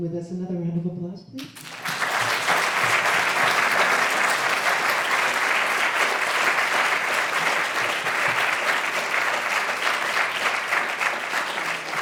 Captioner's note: applause